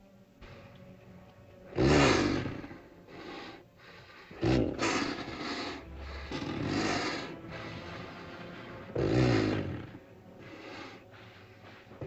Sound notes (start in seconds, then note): 1.6 dinosaur snorts; 4.2 dinosaur grumbles; 4.5 ominous music